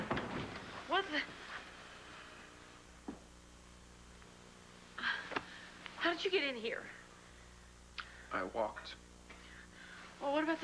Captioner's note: door opens